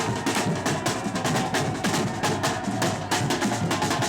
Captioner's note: protestors cheering